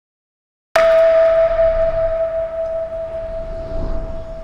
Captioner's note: musical tone rings